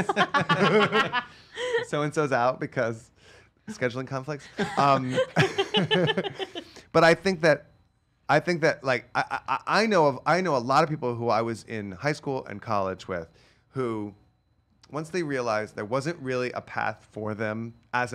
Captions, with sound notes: (laughing) So and so's out because scheduling conflicts. (laughing) But I think that like I know a lot of people who I was in high school and college with who once they realized there wasn't really a path for them